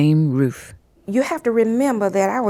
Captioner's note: soundbite of archived recording